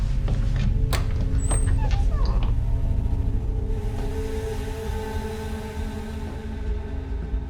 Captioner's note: tense music; door creaking